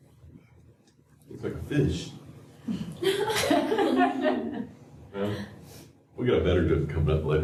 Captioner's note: laughter